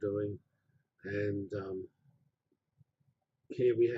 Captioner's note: pause